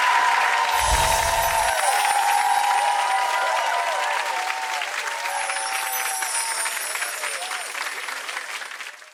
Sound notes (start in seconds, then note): 0.7 shimmering